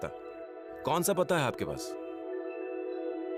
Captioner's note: speaking in foreign language